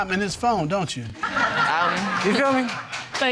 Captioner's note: audience laughing